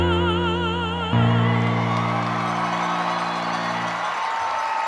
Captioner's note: audience cheering